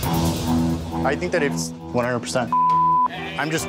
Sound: beep

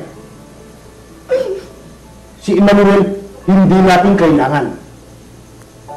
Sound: whimpers

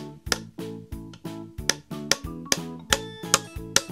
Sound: upbeat music; hammering

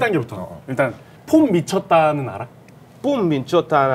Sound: in Korean

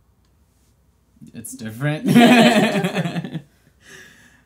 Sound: laughs

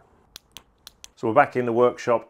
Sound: clicking sound

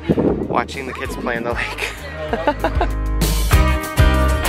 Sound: laughs; laidback music

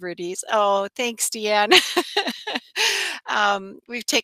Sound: laughs

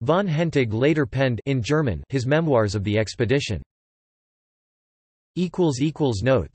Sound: in German

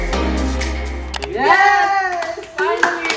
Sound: screaming happily

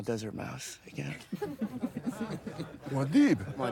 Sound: laughter

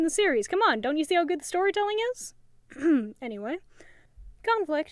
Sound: ahem

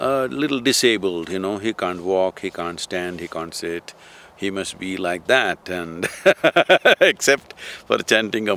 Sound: laughs

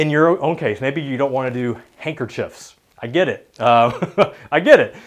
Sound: laughs

